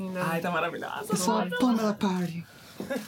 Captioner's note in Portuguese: com voz feminina